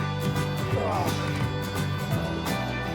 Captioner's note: grunts